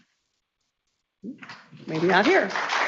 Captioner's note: people clapping